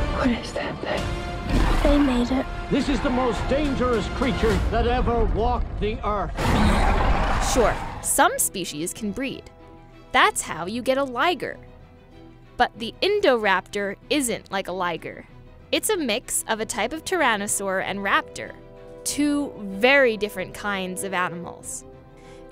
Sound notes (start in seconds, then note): 6.4 growling